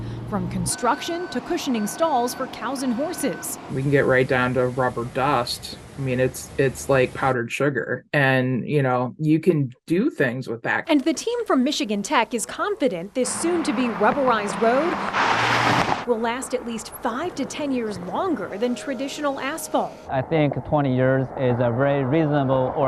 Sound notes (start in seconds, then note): 15.5 vehicle whirring